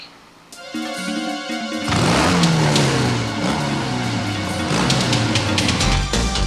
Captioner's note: tense music; motorbikes rumbling; dynamic music